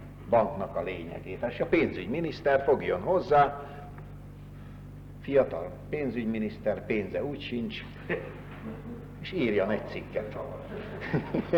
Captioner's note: laughter